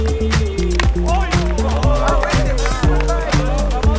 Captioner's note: bat clanks ball; players shouting out